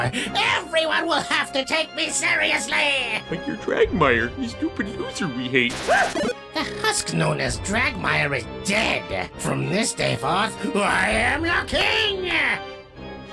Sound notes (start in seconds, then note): 5.7 electric zap